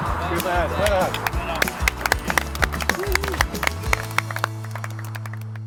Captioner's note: supporters applaud